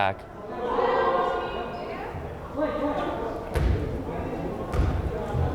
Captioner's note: crowd chattering